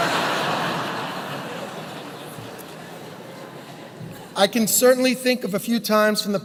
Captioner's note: laugh